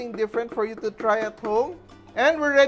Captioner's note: knock